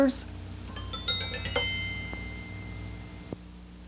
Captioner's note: beeping